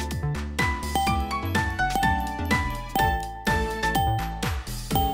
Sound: countdown chime noise

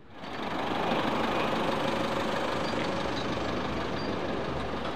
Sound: van engine rumbles

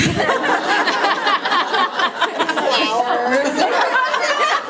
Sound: people laughing

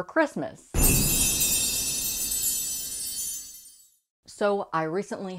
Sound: loud Chimes

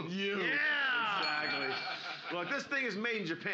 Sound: bell softly chimes

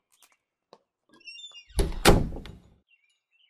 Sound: door creaks and closes

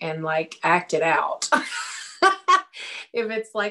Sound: laughs

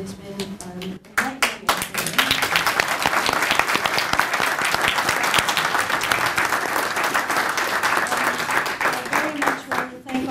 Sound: applause

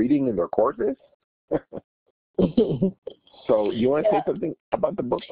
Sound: laughter

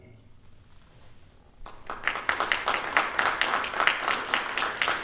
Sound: audience applauding

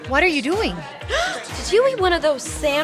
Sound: gasps

